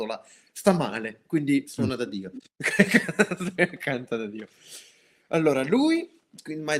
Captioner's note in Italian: risate